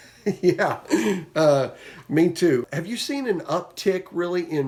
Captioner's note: chuckles